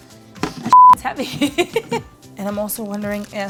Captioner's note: fondant smacks onto table; laughs